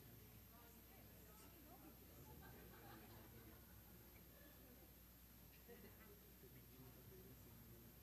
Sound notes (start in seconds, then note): 3.0 chattering